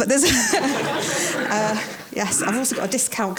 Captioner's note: audience laughs